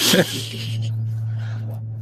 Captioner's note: laughing